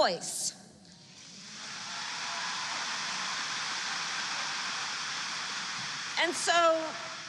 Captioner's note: applause